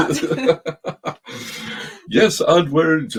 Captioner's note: both chuckling